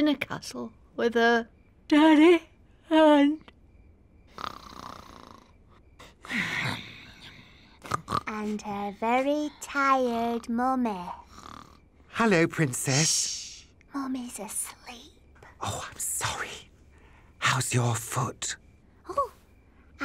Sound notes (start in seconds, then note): 4.3 snores; 4.3 yawns